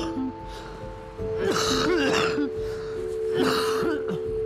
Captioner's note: coughing